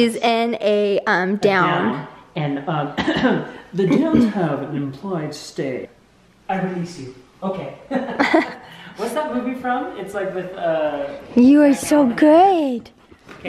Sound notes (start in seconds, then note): 3.8 clears throat; 7.9 laughs